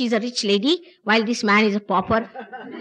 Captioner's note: laughter